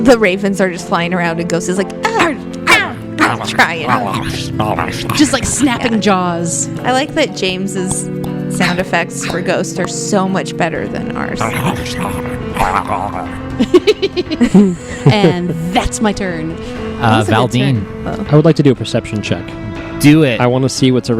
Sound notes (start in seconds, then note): 2.8 makes effort sounds; 11.8 makes more Ghost weasel sounds; 15.0 laugh